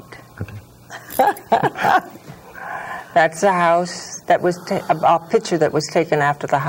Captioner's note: laughter